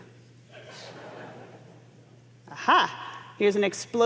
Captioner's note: laugh